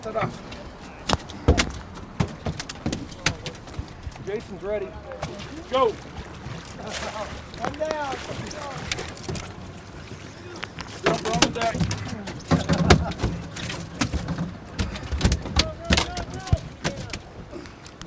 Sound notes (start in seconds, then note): 5.7 fish splashing; 7.1 laughing; 10.6 clattering; 11.9 fish thrashing